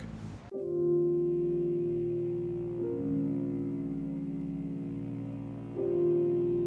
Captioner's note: water splashing; somber music